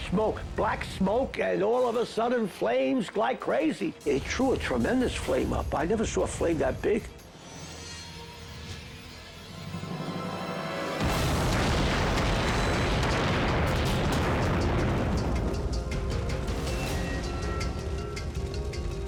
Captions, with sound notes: - Smoke, black smoke, and all of a sudden flames like crazy. They threw a tremendous flame up. I never saw a flame that big. (foreboding music) (explosion booming)